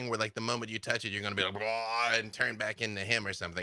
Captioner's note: groans